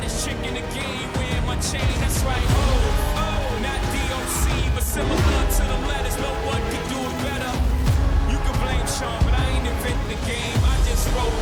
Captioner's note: continues playing